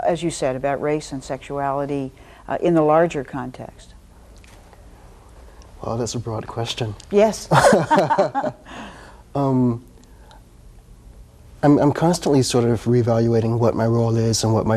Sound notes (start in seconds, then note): 7.5 both laughs